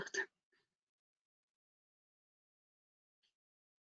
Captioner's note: silence